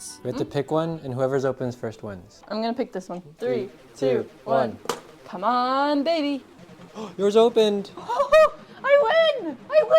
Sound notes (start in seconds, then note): 6.9 gasp